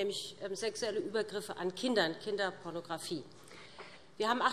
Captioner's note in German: none